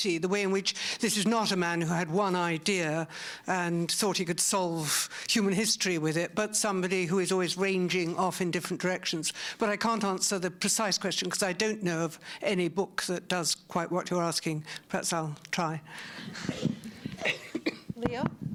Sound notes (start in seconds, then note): 16.3 laughter